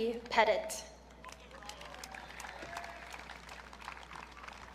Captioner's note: audience clapping